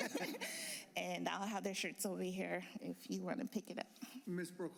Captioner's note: laughter